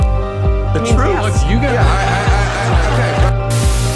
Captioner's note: laughter